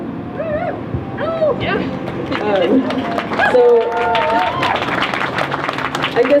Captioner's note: crowd cheers